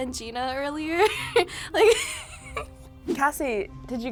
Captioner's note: laughs